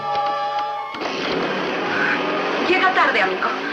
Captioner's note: revs engine